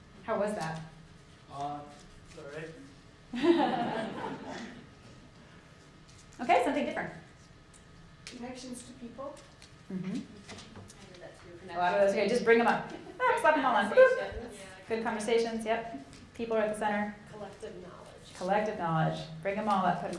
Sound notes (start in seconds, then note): 3.4 audience laughing